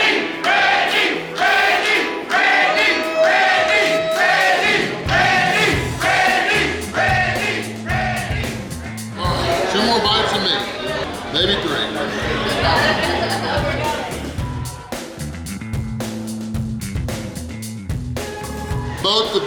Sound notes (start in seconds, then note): 12.5 laughing; 16.0 bouncy music